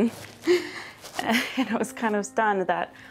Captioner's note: laughs